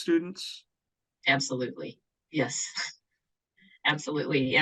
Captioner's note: chuckles